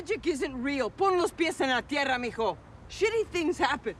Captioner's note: speaking in Spanish